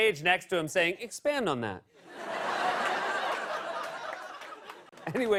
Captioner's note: laughter